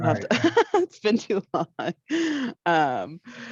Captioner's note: laughs